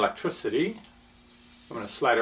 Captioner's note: high pitched hissing